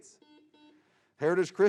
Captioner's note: buzzing